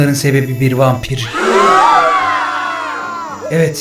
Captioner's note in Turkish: çığlıklar